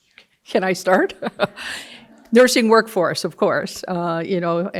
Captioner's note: laughs